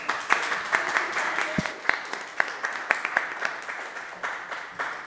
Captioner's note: audience applauding